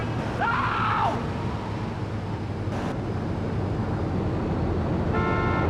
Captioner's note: car engine roaring; car horn honking